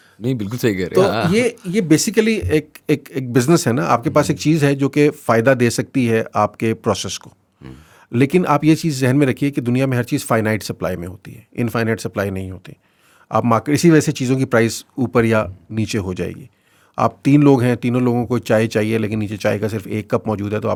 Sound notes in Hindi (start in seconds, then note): 7.6 नाक से की जाने वाली आवाज़; 7.6 गला साफ़ करने की आवाज़